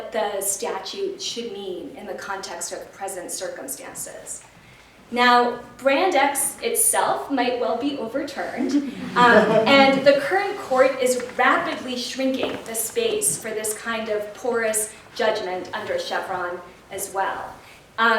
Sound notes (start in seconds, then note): 8.7 laughter